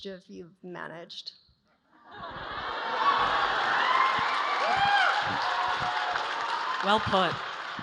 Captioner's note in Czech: Potlesk